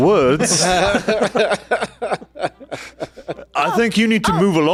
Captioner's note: laughs